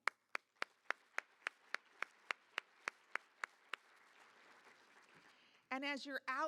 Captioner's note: applause